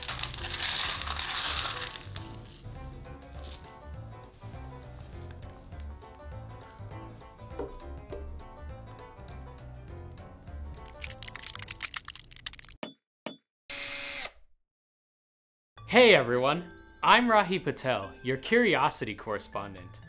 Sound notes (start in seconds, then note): 0.1 scraping; 3.7 banjo music; 10.8 crackling; 12.8 hammer tapping; 13.7 power drill whirring